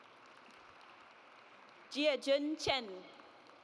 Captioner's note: audience applauds